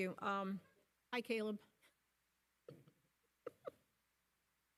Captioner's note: laughing